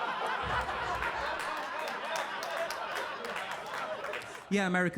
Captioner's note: audience laughing; audience applauding